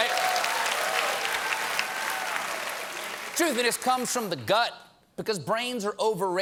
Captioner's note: cheers and applause